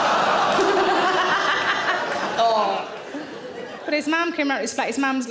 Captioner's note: audience laughing